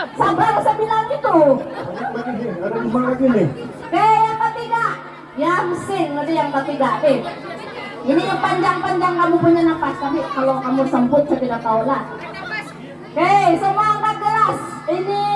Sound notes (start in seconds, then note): 1.2 laughs